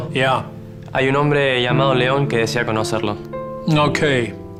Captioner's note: Spanish